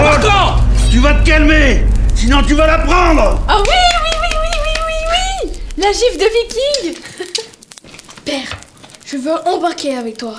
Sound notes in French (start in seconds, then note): 7.1 rires